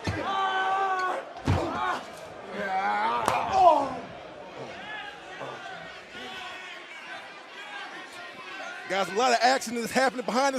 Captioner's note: crowd chatter